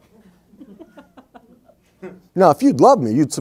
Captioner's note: crowd chuckles